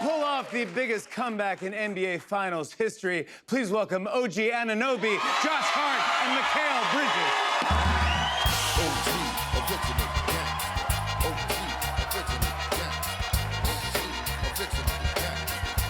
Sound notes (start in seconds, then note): 7.7 cheers and applause